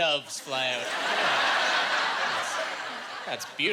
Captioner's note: laughing